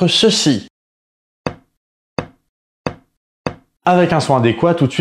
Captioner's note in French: Coups de marteau